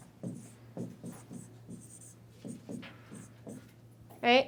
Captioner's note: stylus scratching